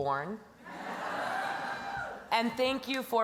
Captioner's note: laughter; cheering